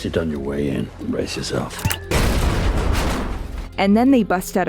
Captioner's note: explosion